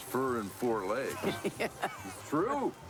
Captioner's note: laughs